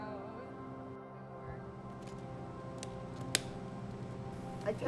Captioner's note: people chattering